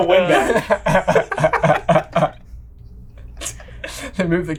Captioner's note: everyone laughing